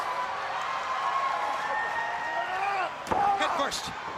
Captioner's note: crowd cheering